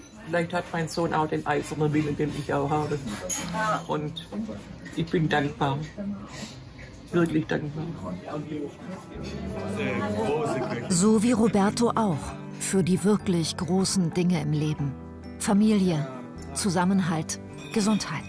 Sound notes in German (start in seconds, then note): 9.7 Stimmengewirr